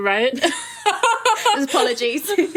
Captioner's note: laughing